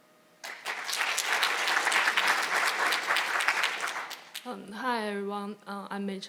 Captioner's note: audience applauding